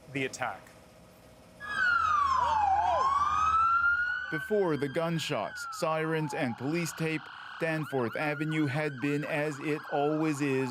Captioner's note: sirens